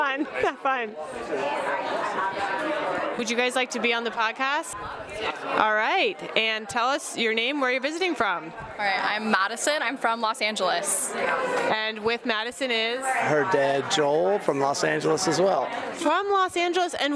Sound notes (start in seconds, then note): 0.0 laughs; 3.1 chatters